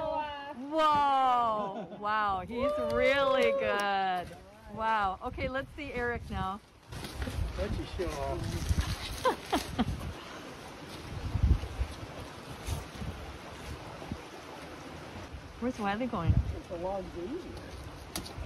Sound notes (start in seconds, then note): 9.2 laughter; 11.3 water flowing